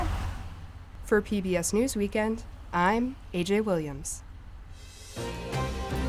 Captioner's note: voice-over